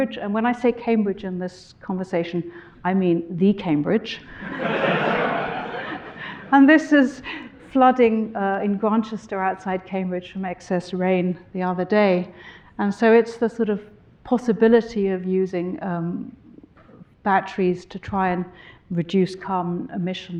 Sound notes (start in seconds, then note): 4.4 audience laughing